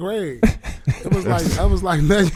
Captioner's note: laughing